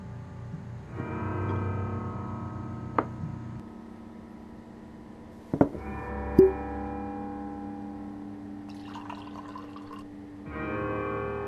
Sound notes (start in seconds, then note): 6.3 bottle Cork Pops; 7.5 sad, Ominous Music